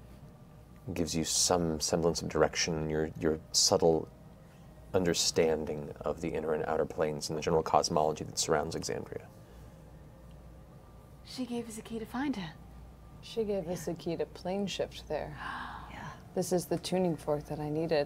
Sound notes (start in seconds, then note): none